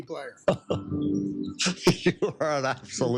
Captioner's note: laughter